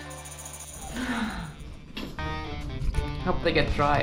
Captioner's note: sighing